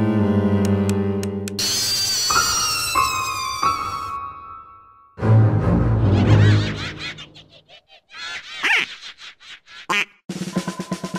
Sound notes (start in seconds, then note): 1.4 yelling; 9.4 quack